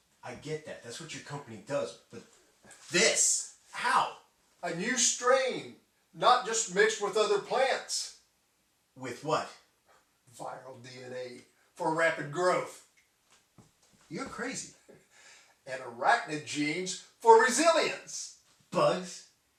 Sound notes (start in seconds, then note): none